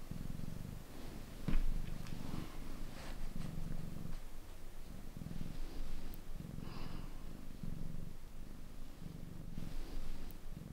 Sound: barely audible purrs

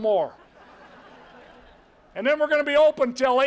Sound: crowd laughter

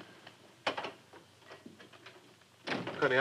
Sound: door clicking

